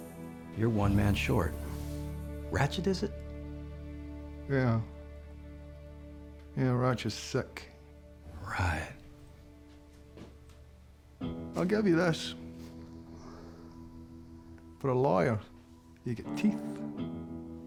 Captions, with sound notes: YOU'RE ONE MAN SHORT... RATCHET IS IT? [SCOTTISH ACCENT] YEAH... YEAH, RATCHET'S SICK. [SAYS SARCASTICALLY] RIGHT. [SCOTTISH ACCENT] I'LL GIVE YA THIS... FOR A LAWYER, YOU'VE GOT TEETH.